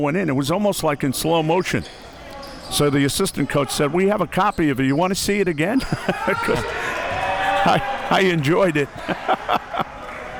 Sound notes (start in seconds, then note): 6.0 chuckling; 8.1 chuckles